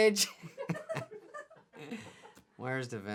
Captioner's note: laughing